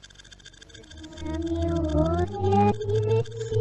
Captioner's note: speaking reversed text in a young girl's voice